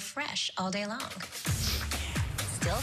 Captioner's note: sniff